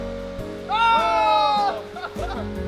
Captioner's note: all exclaim